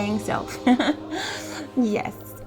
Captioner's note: laughs